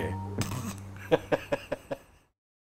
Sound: laughs

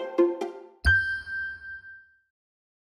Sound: bright music; ding reverberates

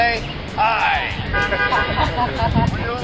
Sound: laughing

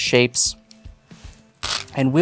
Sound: stones clattering

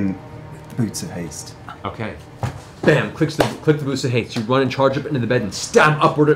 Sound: bam

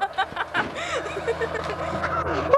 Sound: laughter

